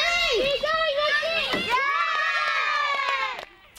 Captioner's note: children cheer